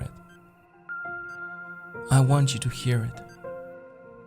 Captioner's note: beeping